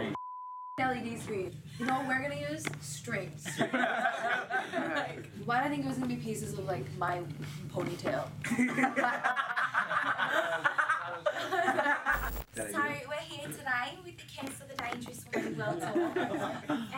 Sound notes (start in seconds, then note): 3.4 all laugh; 8.4 all laugh; 12.2 with Australian accent